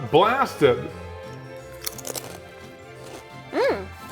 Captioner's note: whimsical music; Takis crunching